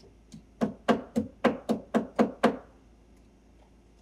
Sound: nail hammering

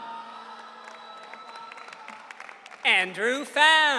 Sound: audience cheering

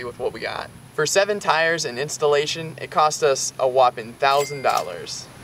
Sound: cash register ding

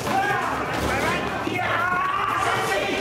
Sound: assassin yelling

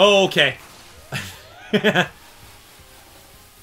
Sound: laughter

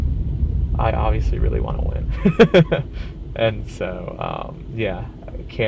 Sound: laughs

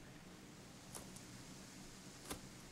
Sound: leaves rustle in the wind

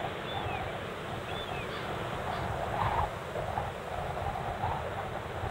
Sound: seagulls chirping

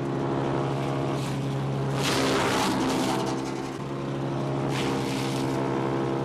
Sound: chipper grinds continuously

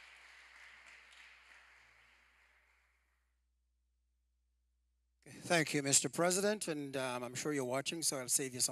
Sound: applause

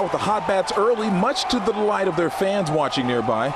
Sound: cheering

